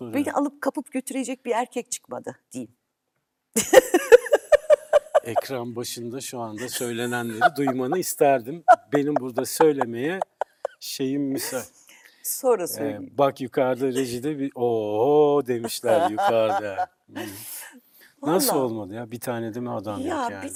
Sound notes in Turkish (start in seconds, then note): 6.6 kahkaha; 15.6 kahkaha